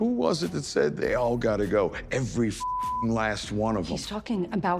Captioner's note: beep